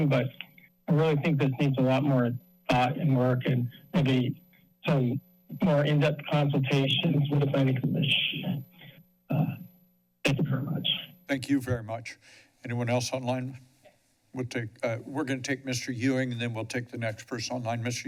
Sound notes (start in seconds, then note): 9.3 pause